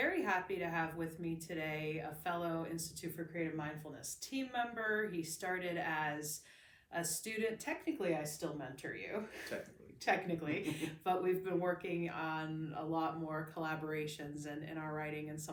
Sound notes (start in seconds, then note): 10.5 laughs